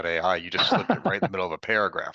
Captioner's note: laughing